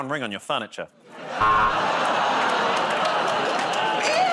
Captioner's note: buzzer